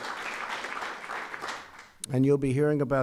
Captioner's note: applause